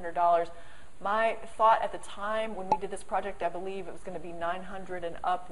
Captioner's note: pop